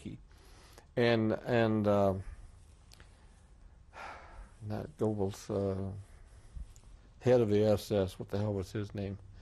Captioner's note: sighs